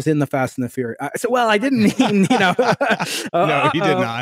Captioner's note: laughing